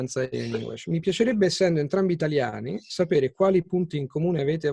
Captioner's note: in Italian